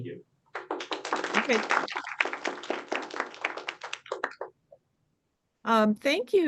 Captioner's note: applause